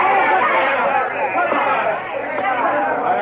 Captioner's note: all shouting